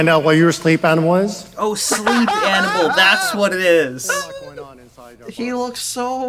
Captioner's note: laughs in sleep animals